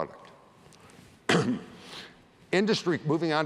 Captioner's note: cough